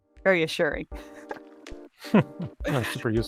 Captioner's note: both chuckle